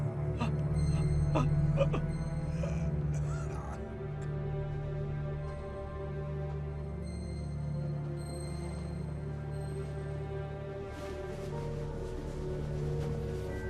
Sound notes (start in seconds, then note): 0.8 Homer groaning; 4.5 mysterious music